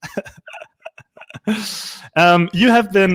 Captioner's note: laughing